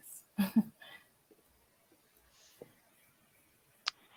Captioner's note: laughs